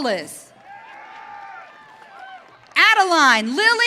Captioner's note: audience cheering